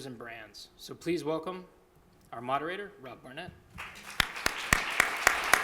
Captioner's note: applause